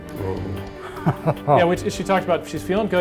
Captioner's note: laughs